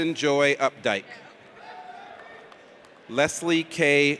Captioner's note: audience cheers